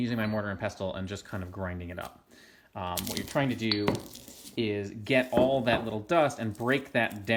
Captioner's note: crunching of roots and clinking of ceramic